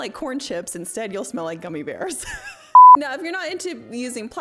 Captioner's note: laughing